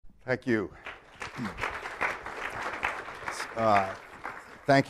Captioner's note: applause